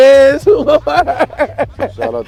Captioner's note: laughing